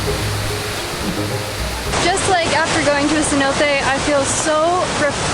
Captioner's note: none